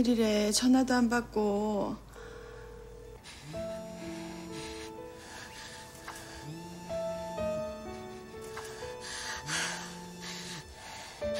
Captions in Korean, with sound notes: -아, 무슨 일이래. 전화도 안 받고. -(휴대전화 진동음) -하아. 말해.